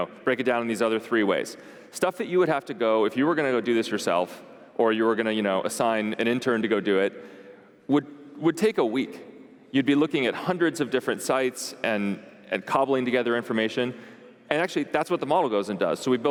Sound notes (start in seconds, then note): none